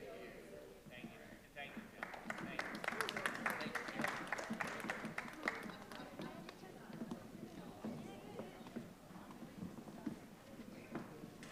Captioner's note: applause